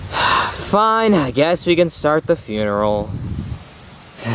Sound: sighs

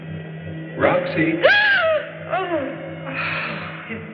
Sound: gasps, startled

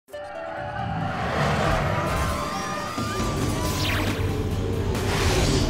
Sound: upbeat music; people screaming

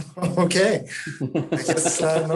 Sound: group laughing

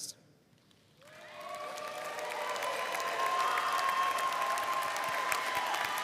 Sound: audience cheering and applauding

